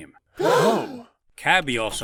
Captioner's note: contestants gasp